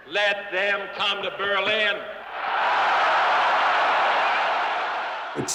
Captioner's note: cheers and applause